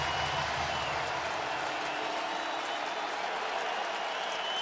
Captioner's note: cheering